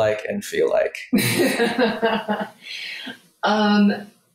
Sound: laughs

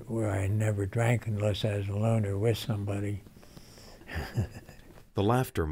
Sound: laughs

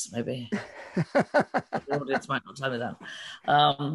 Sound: laughs

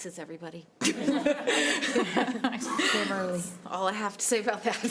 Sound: laughter

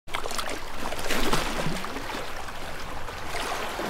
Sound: water splashing

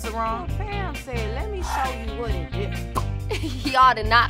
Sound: pops mouth

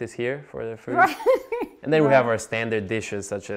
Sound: laughs

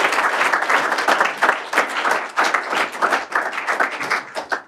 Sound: applause

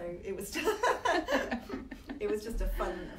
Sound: both laughing

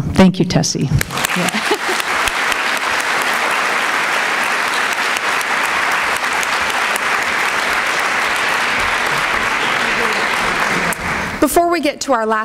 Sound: applause

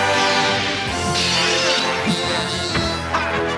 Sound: Link grunts; shattering; Link shouting; Moblin grunting

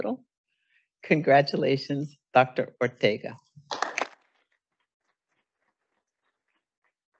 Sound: audience applauding

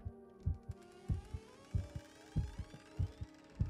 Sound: door creaking

